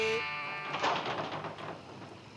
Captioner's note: door rattles